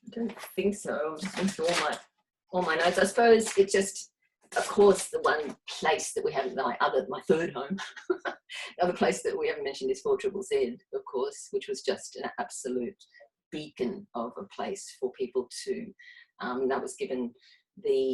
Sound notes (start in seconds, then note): 7.9 laughs